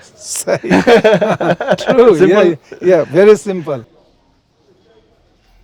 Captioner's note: laughs